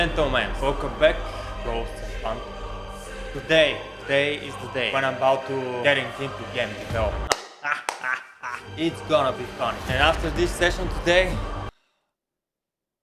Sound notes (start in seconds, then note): 7.2 laught